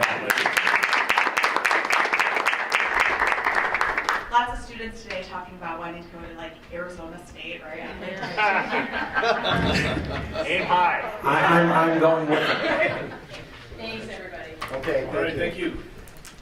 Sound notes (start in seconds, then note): 0.0 applause; 7.8 laughter